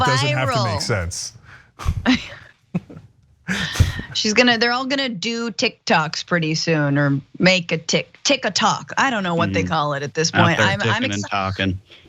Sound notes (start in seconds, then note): 0.0 laugh